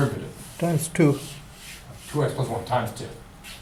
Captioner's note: voiceover